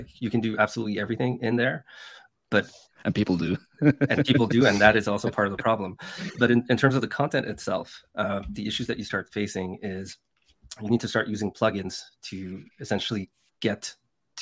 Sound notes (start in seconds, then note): 3.4 laughing